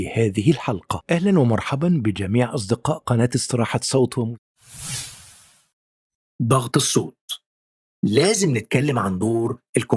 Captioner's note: arabic VO